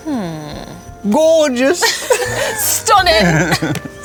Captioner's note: both laughing